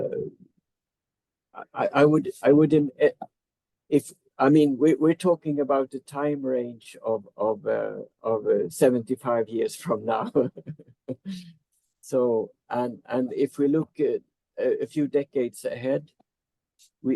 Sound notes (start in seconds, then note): 10.2 chuckles